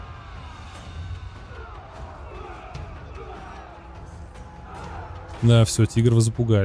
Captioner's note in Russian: крик